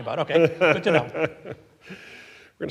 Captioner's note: laughing